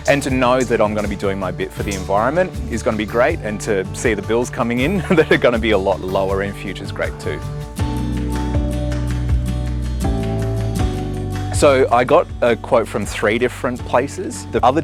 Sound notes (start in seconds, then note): 4.9 laughs